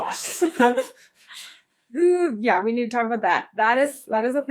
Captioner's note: nervous laughter